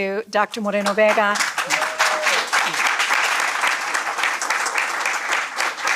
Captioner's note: applause, cheers